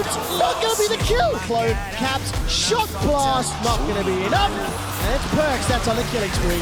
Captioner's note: groans